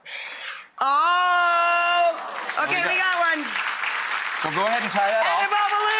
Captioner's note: audience applause